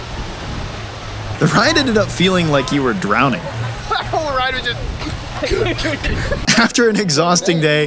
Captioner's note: gasping